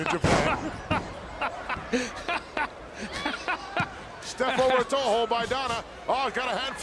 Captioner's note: laugh